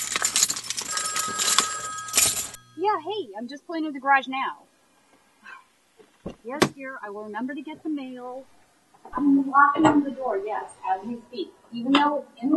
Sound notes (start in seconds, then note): 0.0 phone rings; 0.0 keys rattle; 6.9 sigh